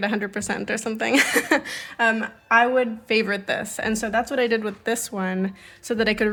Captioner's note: laughs